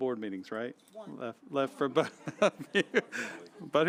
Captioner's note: laughter